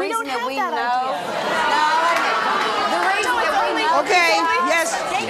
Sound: audience shouts

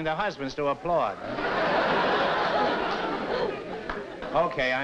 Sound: laughter

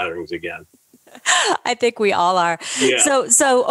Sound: laughs

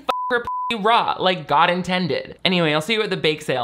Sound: beep

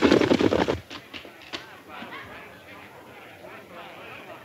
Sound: patrons chatting

